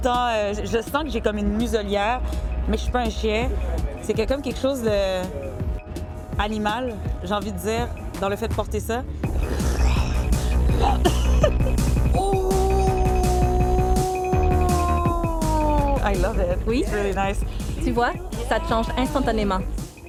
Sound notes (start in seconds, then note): 9.4 growling; 10.8 laughter